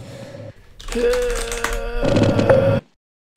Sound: groan

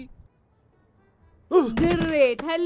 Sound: grunts; thuds

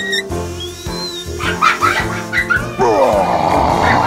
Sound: crazy laughter

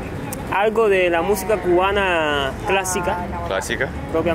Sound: speaking Spanish

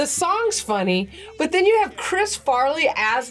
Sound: none

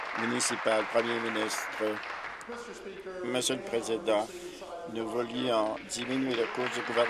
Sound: applause

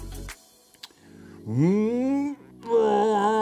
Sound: breathing

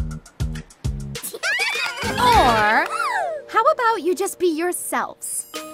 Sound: giggling

